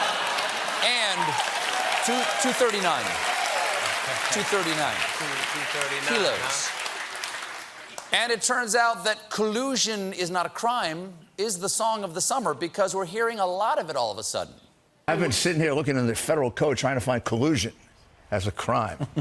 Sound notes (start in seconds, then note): 1.7 applause; 1.7 cheering